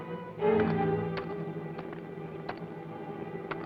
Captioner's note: pickax clacks